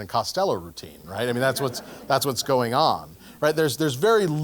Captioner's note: laugh